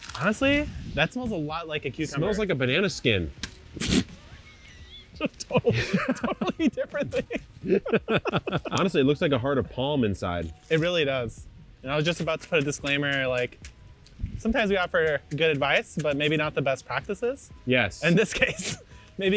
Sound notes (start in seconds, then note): 3.9 snorts